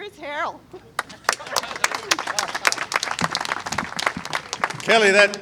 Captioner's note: applause